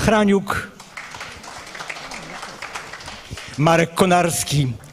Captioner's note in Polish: oklaski